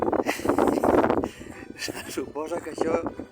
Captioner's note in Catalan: Riu